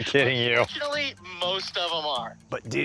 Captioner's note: on phone